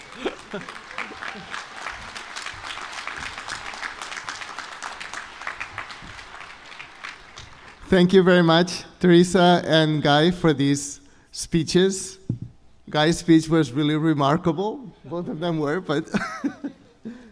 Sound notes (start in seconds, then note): 0.0 chuckles; 0.0 applause